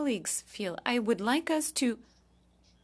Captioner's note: speaking French